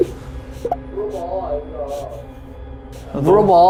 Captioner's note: only cries without answering